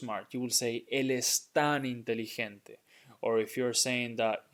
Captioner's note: speaking in Spanish